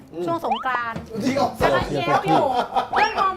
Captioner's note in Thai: หัวเราะ